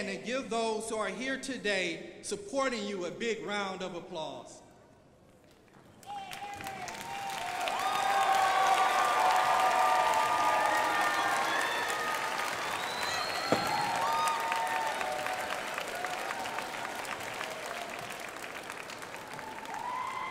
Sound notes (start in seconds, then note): 4.5 crowd applauding